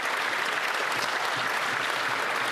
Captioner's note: applause